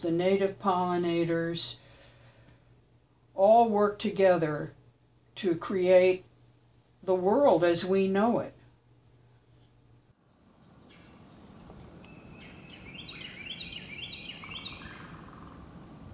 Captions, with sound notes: native pollinators, all work together to create the world as we know it. (Birds chirping)